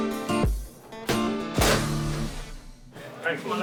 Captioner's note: door slamming